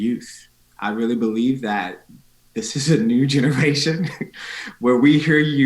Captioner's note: chuckling